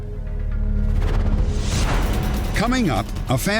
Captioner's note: whoosh